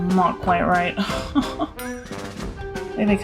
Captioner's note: nervous laugh